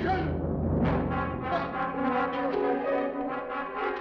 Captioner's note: groaning